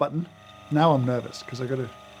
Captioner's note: grinder whirring